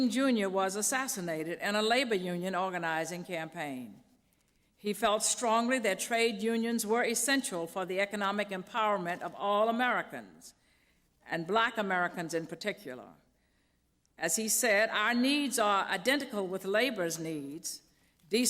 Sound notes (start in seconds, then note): none